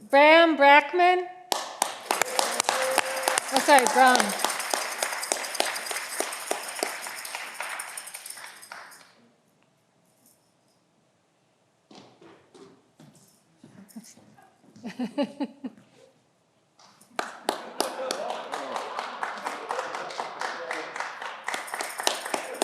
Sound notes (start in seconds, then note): 1.5 audience clapping; 2.0 laughs; 14.8 professor laughing; 19.5 audience clapping